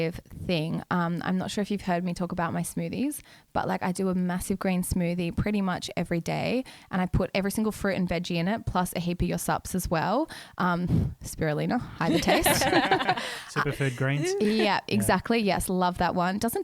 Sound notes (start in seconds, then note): 12.0 laughing together